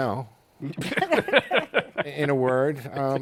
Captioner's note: laughter